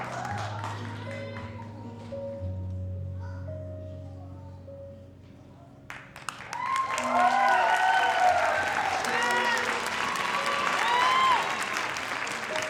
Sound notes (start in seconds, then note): 5.9 audience applauding; 6.4 audience cheering